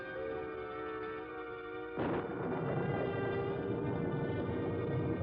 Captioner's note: thunder crashes